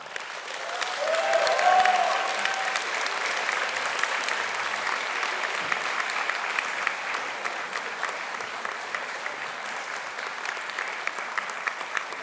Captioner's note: cheering and applause